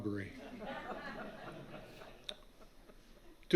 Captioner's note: laughter from audience